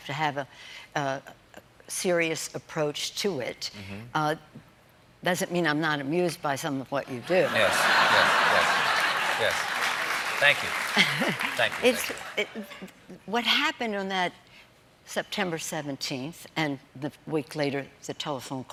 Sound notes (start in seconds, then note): 11.9 applause; 11.9 laughter